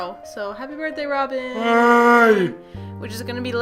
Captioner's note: yawns